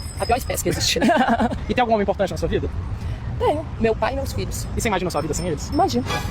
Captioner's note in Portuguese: risadas